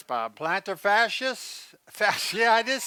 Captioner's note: laughs